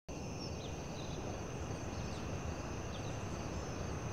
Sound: birds chirping

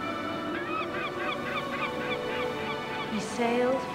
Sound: gulls cawing

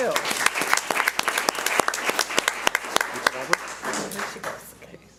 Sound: audience applauds

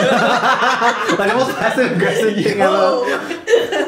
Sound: laughter

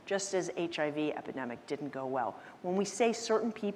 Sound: none

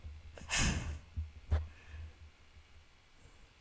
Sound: sigh

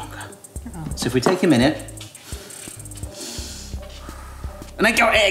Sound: breathes calmly

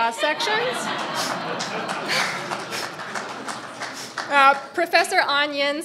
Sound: audience applauding

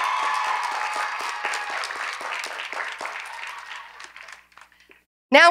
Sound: cheers and applause

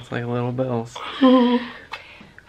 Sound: chuckles

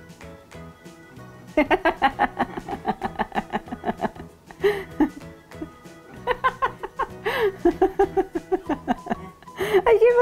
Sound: laughing

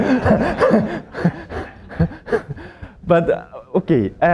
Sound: laughter

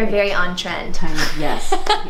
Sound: laughing

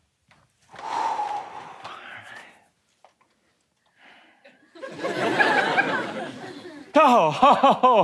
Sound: exhales

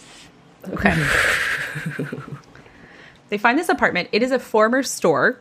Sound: big sigh

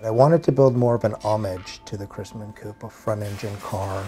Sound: none

